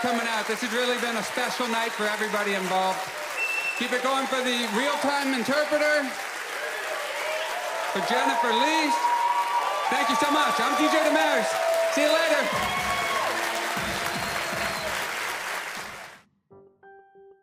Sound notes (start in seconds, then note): 6.0 audience continues cheering loudly